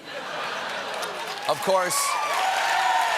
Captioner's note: cheers and applause